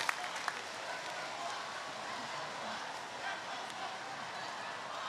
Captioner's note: audience chanting